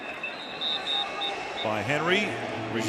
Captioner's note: whistle blows